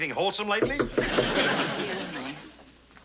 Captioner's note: knocking at door